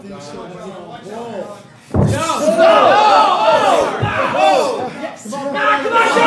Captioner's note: audience cheering